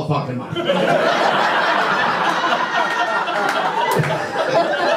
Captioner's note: audience laughter